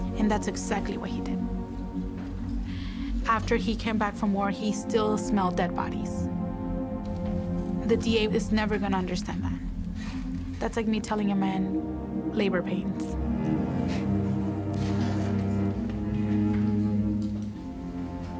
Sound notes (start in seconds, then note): 14.2 laughs; 14.9 melancholy music